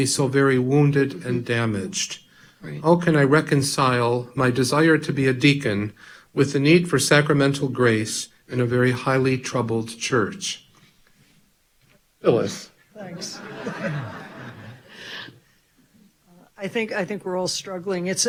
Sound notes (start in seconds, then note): 13.0 audience laughing